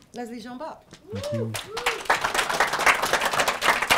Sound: cheers & applause

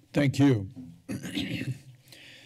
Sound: clears throat

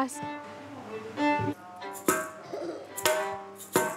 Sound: giggles

